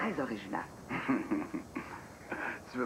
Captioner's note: rire poli